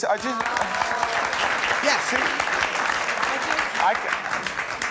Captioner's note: audience applauding